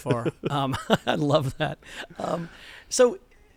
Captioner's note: laughter